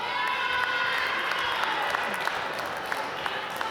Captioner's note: applause